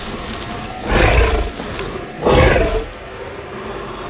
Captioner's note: snarling